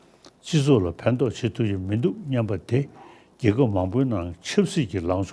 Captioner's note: speaking foreign language